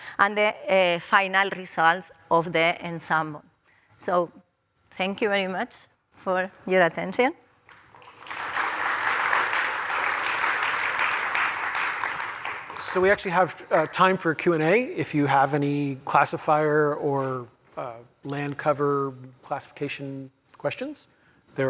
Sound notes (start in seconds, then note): 7.6 applause